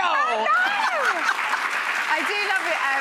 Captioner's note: audience applauds